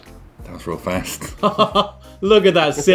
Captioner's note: laughing